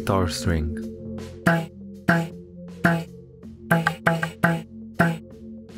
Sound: plucking sound

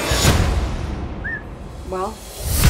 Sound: whistling

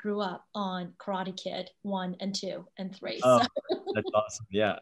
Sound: laughs

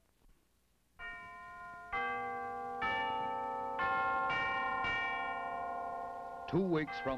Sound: clock chimes continue under announcer

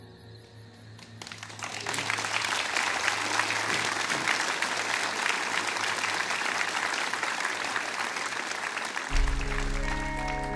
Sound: applause

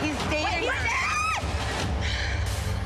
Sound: screams

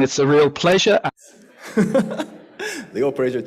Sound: laughter

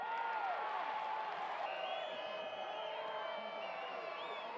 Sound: cheering

